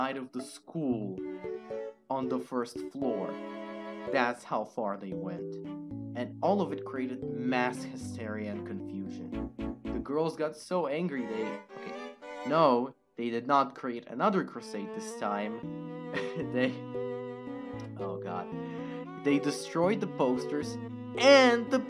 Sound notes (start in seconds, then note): 16.1 laugh